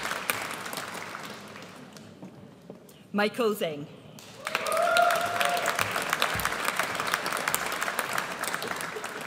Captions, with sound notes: Michael Zeng. (AUDIENCE CHEERS)